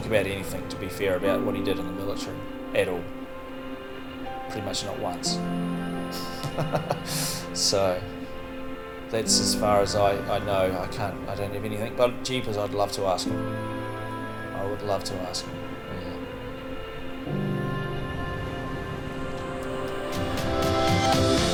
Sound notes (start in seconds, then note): 6.2 chuckles